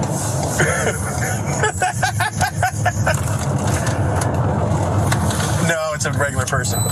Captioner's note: laugh